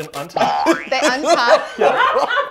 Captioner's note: boing; laughter